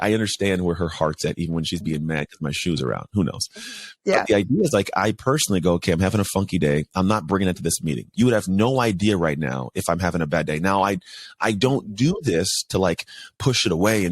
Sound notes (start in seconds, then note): 4.1 chuckles